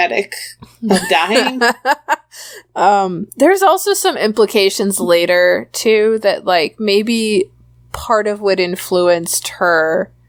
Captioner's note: laughs